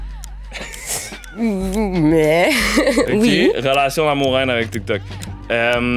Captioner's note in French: rires